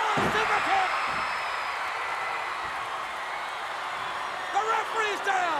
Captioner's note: crowd cheering